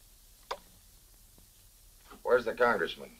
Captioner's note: switch clicks